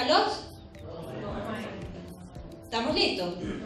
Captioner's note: crowd